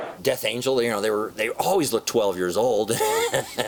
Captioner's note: laughs